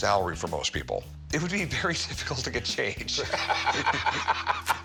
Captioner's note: laughs